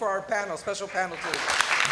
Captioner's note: applause